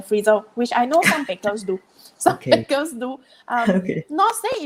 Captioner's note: laughs